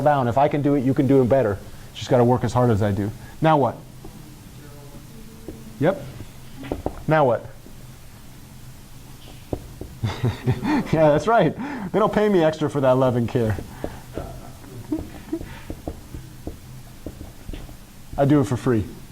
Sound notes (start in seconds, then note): 10.0 chuckle; 12.6 laughter